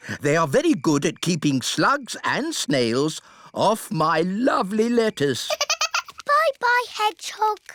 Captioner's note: giggles